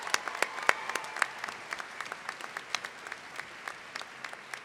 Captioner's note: applause